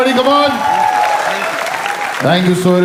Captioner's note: crowd applauding